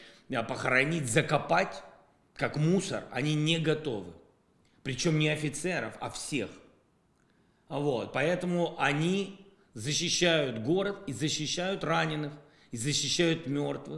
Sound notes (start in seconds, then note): 10.1 Russian